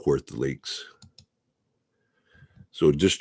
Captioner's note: mouse clicking